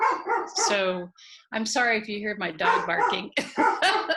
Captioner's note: laughing